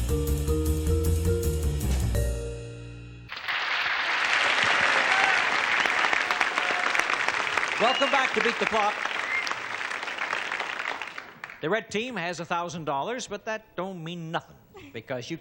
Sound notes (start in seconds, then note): 4.9 audience cheers